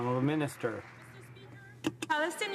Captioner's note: some Applause